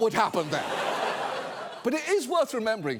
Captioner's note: studio audience laughs